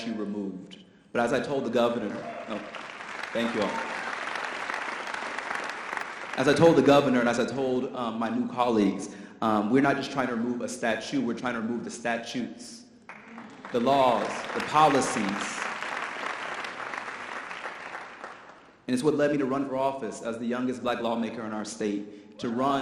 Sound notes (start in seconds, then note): 13.1 audience applause